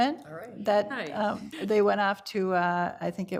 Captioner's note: laughs